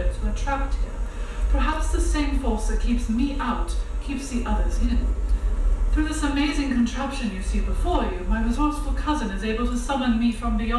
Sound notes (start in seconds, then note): none